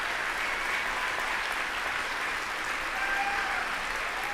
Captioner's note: applause